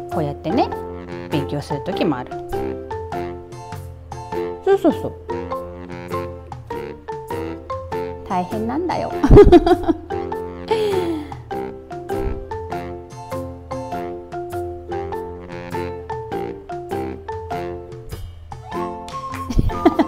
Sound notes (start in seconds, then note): 9.2 laughs